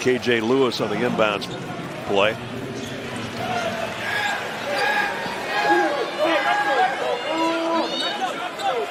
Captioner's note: shouting